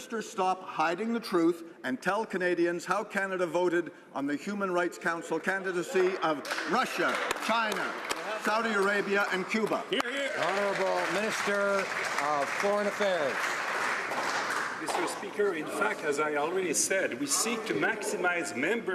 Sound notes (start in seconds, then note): 12.8 some Applause